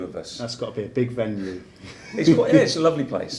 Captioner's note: laughs